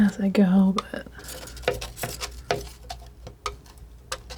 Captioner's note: tapping